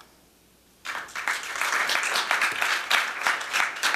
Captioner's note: applause